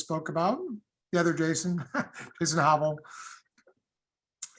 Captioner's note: laughter